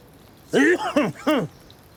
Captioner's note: Cook Coughs